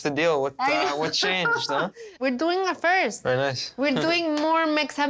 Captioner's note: laughs